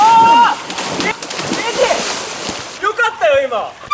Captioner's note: oooh!